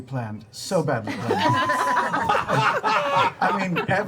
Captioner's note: laughter